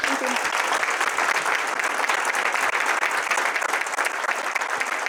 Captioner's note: applause